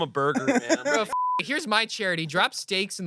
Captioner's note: beep